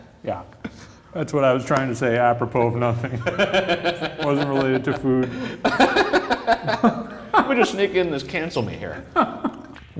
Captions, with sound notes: Yeah, that's what I was trying to say, apropos of nothing. Wasn't related to food. - (laughs) Let me just sneak in this. Cancel me here.